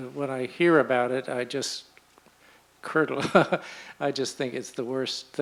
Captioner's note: chuckles